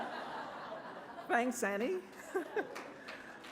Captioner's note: laughter; laughs